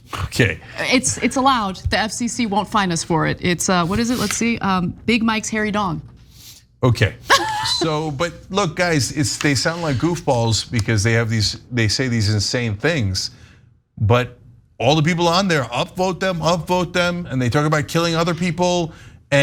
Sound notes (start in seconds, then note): 7.3 laugh